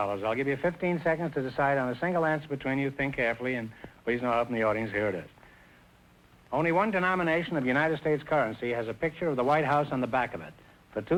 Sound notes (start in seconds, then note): none